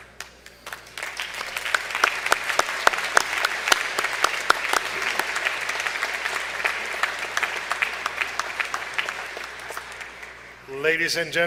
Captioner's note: applause